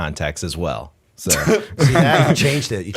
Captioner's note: laughter